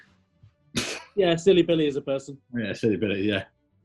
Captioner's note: splutters